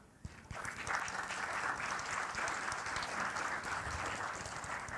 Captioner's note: applause